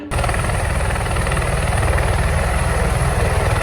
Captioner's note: helicopter take off noises